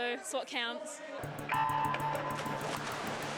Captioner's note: starting klaxon